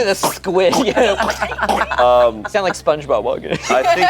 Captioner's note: steps squishing